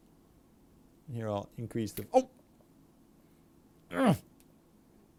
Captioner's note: grunting sound